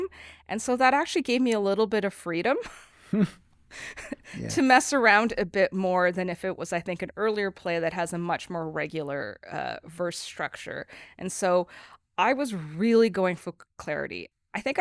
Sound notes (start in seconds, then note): 2.7 both laughing